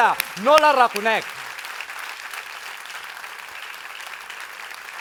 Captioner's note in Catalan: aplaudiments